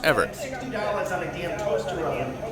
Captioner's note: man talking loudly in background